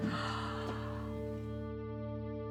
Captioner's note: gasps